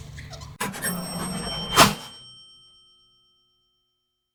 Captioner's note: engine humming; chaching sound